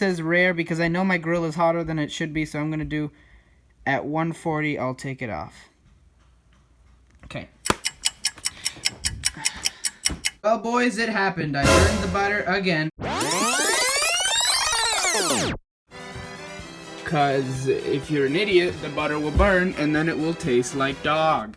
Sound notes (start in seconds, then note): 7.6 timer ticking; 11.6 scary sound; 13.0 rewind sound; 15.9 circus music